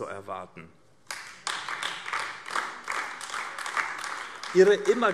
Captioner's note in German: Beifall AfD